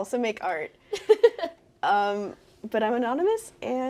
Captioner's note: laughing